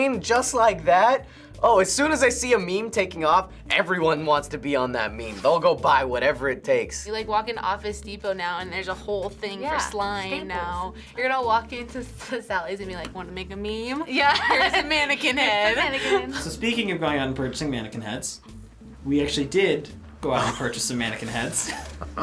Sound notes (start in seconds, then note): 14.2 laughs; 21.2 chuckles